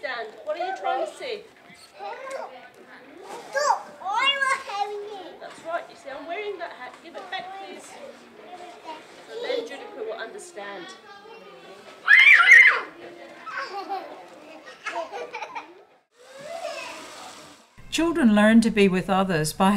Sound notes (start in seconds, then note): 12.1 squeals, laughs